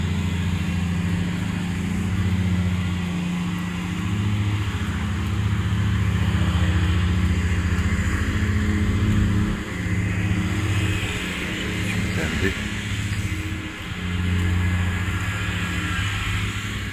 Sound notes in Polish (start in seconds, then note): 1.5 Aplauz